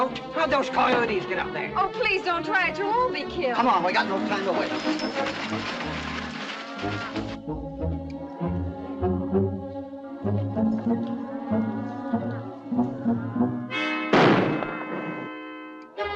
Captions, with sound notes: How did those coyotes get up there? Don't try it, you'll be killed. Come on, we got no time to wait! [ CATTLE MOOING ] [ GUNSHOT ]